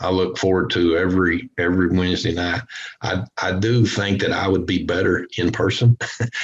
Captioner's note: chuckles